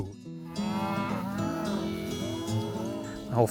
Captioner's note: cows mooing